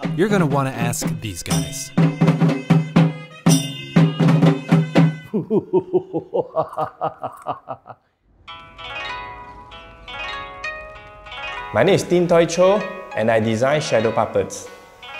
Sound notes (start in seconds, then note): 3.6 drum music; 5.2 man laughing